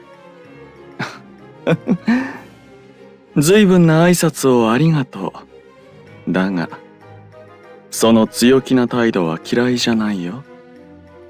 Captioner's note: laugh